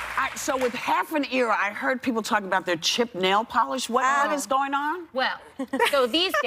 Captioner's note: cheers and applause